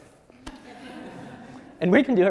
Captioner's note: audience laughs